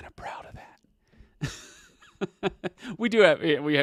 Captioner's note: laughs